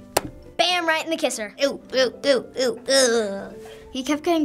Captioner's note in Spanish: gemido